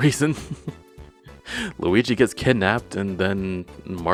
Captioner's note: laughs